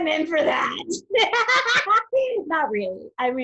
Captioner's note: both laugh